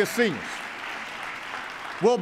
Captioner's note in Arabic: تصفيق